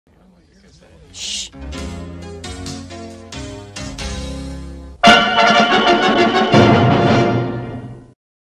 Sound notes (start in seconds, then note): 0.6 packed theatre audience murmuring; 1.0 late 80s/early 90s music playing